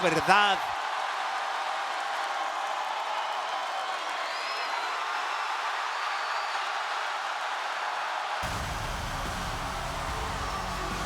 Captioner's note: applause